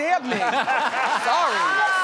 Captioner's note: all laugh